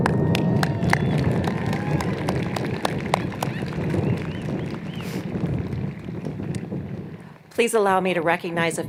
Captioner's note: applause